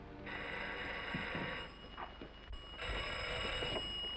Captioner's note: phone ringing